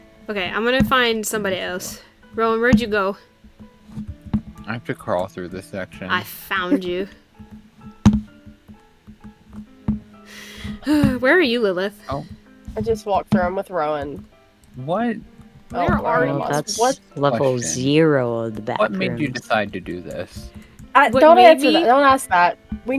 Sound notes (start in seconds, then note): 10.2 sighs